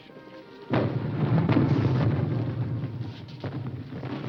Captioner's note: bomb rumbling